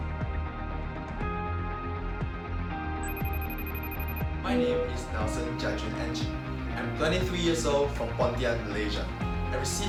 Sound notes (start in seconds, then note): 3.0 phone rings